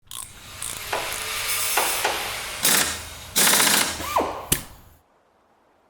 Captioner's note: automotive garage tool sounds